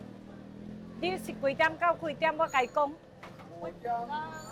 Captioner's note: speaks in Chinese